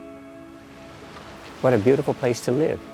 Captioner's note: tide sloshing